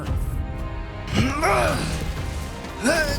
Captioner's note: grunting